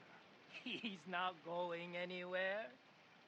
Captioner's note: laughing